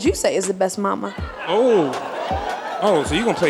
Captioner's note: audience laughing